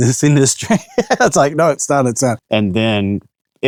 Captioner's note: laughs